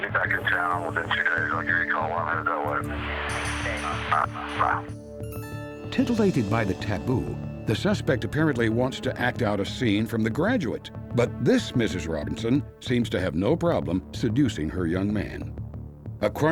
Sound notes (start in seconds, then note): 3.2 on phone